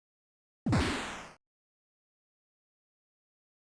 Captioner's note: thud sound